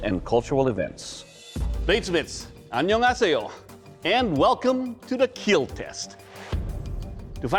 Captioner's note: korean